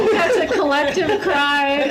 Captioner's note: laughs